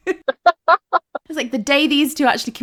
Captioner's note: laughing